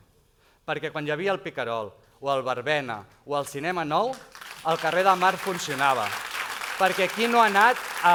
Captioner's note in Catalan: aplaudiments